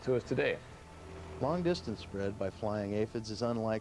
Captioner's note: voiceover